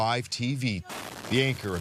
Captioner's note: speaking alternate language